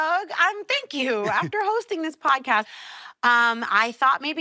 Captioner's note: chuckles